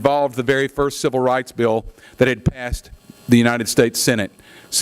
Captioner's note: none